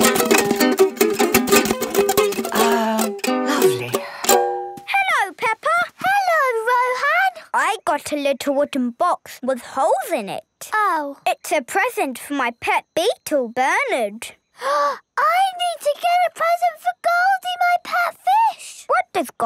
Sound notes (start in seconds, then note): 0.0 vigorous, unpleasant strumming; 14.8 gasps